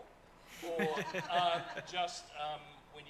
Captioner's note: panel laughs